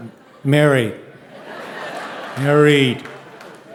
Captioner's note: audience laughing